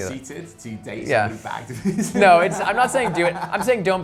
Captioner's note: laughs